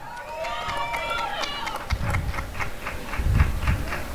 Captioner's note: applause and cheering